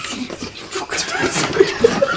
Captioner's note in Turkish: gülme sesleri